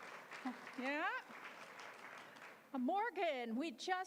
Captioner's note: applause